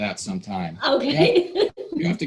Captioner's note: laughing